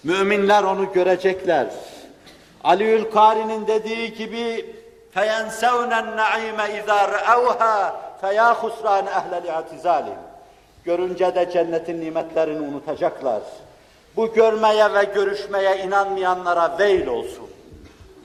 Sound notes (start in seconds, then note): 2.3 reciting